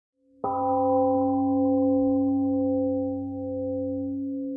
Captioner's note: temple gong rings and fades